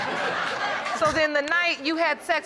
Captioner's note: audience laughing